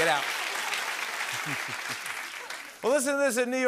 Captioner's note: chuckles